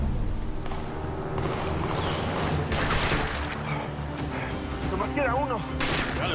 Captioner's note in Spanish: Disparos